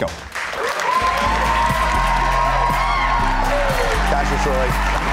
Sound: applause / Music

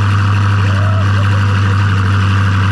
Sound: car engine running; cheering; car engine running

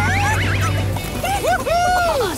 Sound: cheering

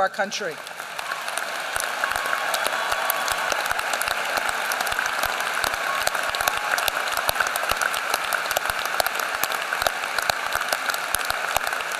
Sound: applause

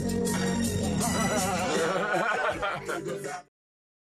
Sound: laughs

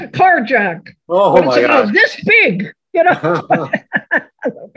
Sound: laughs

